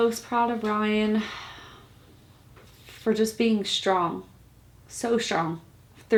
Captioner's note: sighs deeply